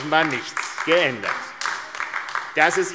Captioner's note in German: Beifall AfD